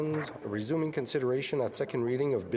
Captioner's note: speaking French